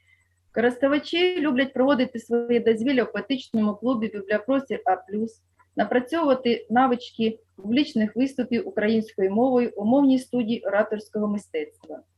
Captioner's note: foreign Language